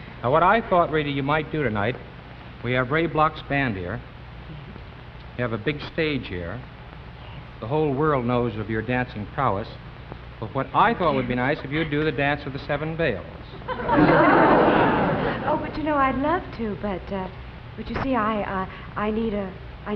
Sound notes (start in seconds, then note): 13.5 audience laughing